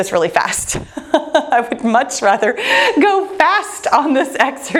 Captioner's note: laughing